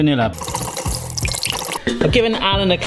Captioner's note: whisk whirring